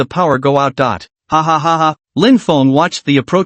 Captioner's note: hahahaha